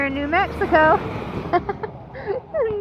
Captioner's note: proud of corny joke laugh